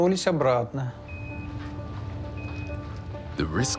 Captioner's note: device beeping, crackling